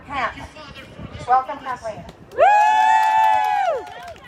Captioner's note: cheering